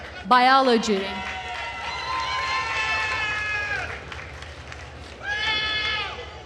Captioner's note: attendees cheering and applauding